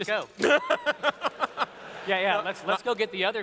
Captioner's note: laughter